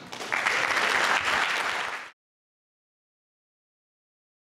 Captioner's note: audience clapping